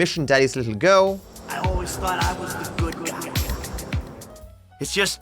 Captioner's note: Michael’s voice echoes